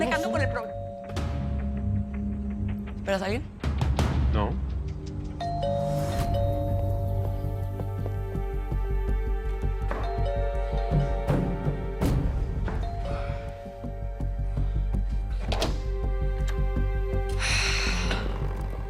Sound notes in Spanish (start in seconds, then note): 0.0 Timbre de la puerta; 5.4 Timbre de la puerta; 10.0 Timbre de la puerta; 15.4 Sonido al abrir la puerta